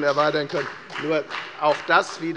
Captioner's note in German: Beifall bei der FDP und der SPD